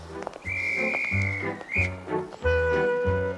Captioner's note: whistle for train departure